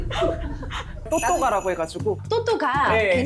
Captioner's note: continuing sound effect